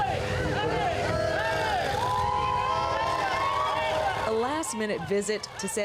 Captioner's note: cheering